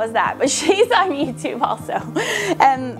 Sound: laughs

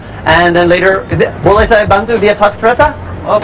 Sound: speaking indonesian

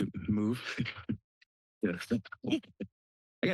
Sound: laughter

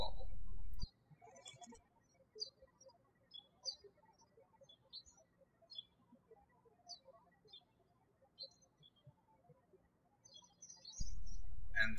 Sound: birds chirping

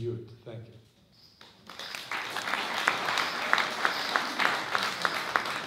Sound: applause

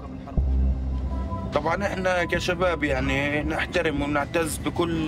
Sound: speaking Arabic

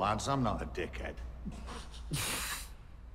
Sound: snickering

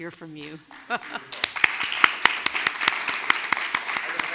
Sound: clapping

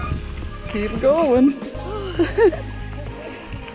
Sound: laugther

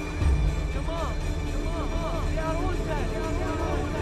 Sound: all chattering

